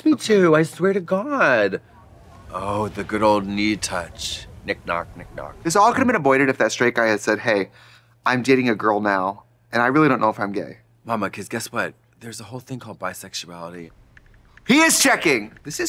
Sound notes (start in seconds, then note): 14.0 keyboard text typing